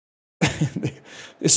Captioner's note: chuckles